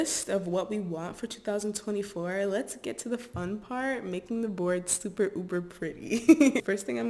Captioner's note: laughs